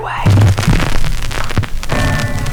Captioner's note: crackling